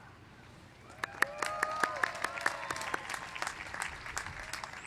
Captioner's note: applause